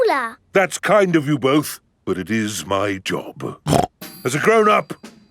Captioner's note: snorts